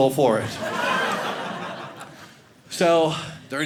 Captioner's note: audience laughing